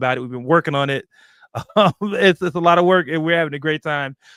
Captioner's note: chuckles